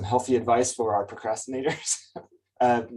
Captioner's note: chuckles